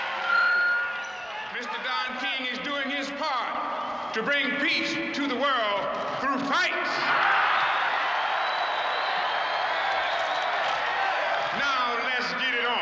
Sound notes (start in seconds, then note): 6.5 crowd cheering